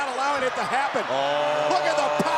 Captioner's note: crowd cheering